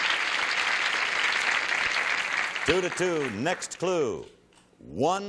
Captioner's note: applause